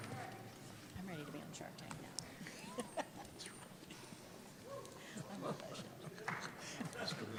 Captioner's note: laughs